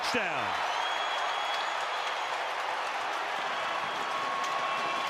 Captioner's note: cheering